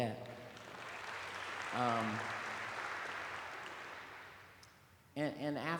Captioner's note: applause